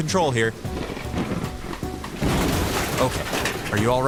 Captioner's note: thunder cracking; upbeat music